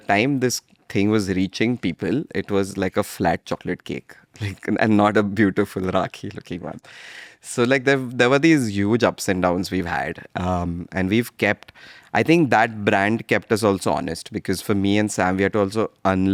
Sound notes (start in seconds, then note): 4.8 chuckles